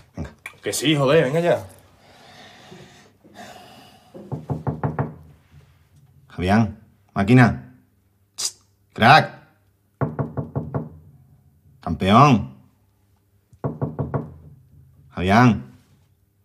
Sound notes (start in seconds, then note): none